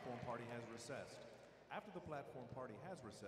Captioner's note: applause